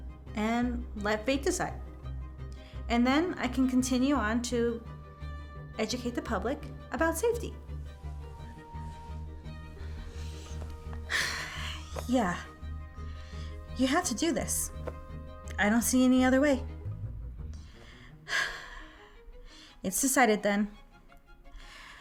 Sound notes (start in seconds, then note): 7.5 gentle music continues; 18.4 sighs